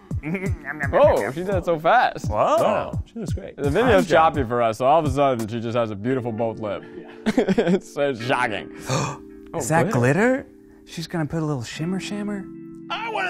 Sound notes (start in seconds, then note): 6.9 laughing; 9.0 shrieking